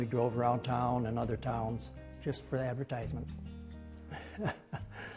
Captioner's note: laughs